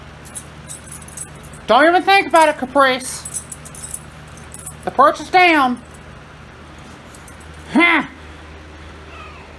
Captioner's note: Caprice scoffs; Caprice meows angrily